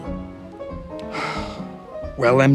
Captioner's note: sighs